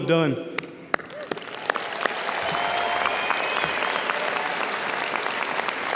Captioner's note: audience cheers and applauds